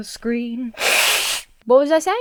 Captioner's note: Emma blows her nose